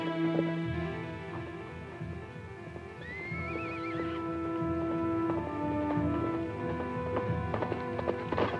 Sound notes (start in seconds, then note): 2.6 suspenseful music; 3.1 horse neighs